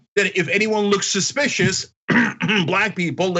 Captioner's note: cough